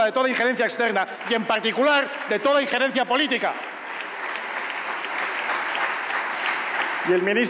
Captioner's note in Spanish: Aplausos